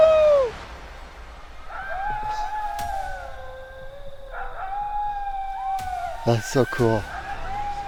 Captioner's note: distant howling